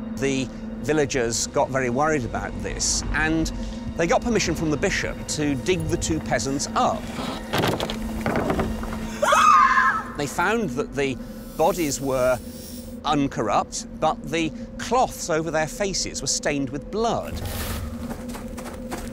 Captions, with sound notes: The villages got very worried about this and they got permission from the Bishop to dig the two peasants up. (woman screams) They found that the bodies were uncorrupted, but the cloths over their faces were stained with blood.